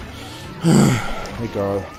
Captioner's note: sighs